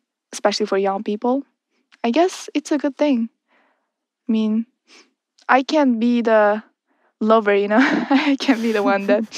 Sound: laughs

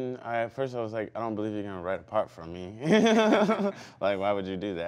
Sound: laughs

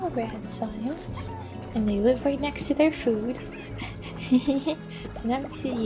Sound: giggle

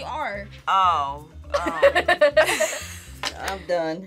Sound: laughs

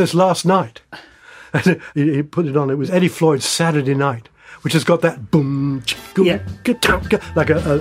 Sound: mimics drum sounds

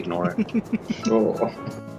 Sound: laughter

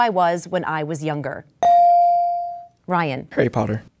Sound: dinging

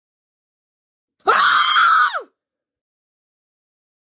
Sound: scream

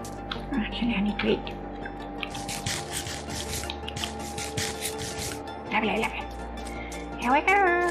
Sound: crunching sounds

